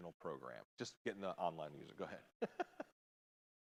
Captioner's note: laughs